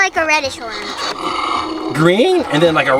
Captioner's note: dinosaur growls